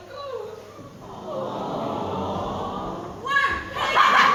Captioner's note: audience go "awww"